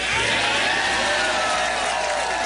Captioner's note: applause